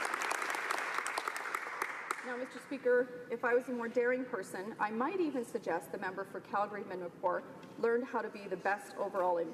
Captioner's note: applause